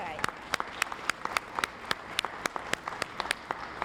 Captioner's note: applause